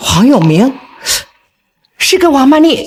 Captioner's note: gasps